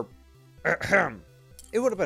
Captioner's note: ahem